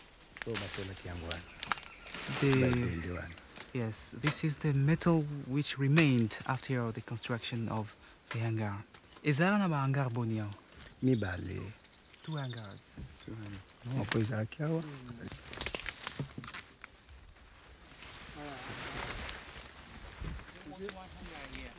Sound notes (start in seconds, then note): 0.2 speaking in foreign language; 7.9 speaking in foreign language; 14.1 men speaking in foreign language